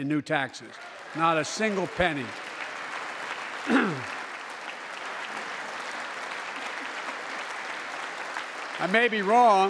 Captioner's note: applause